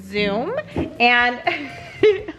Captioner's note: laughs